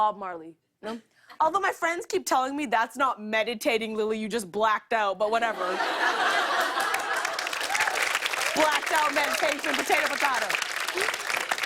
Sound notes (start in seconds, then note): 5.6 laughter and applause